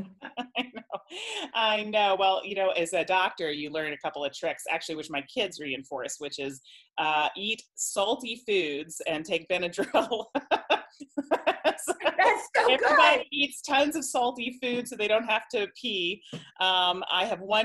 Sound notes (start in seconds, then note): 9.8 laughter